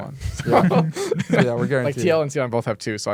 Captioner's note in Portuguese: risos